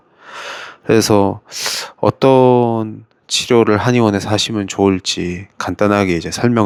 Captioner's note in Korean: 헉 소리